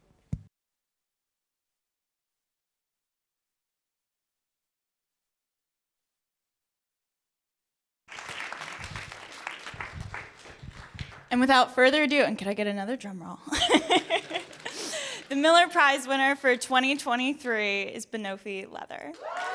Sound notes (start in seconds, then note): 8.1 audience applauding; 13.5 laughs